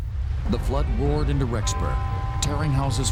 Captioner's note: voiceover